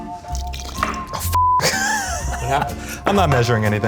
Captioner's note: beep; laughing